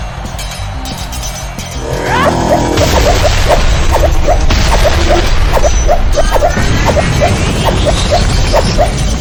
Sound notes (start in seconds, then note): 2.3 Xu Xang shouting; 2.3 explosions booming